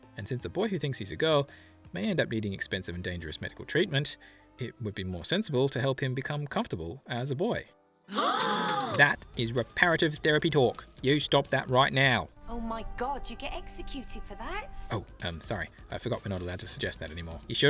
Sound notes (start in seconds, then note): 8.1 gasps